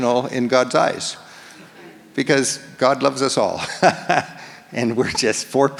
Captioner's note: laughs